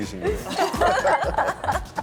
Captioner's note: laughing